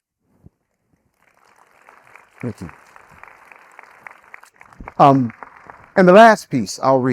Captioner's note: audience applauding